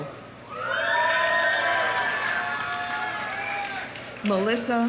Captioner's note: audience cheering; audience applauding